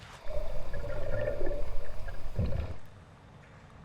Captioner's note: water bubbling